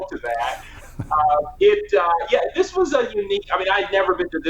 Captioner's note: giggling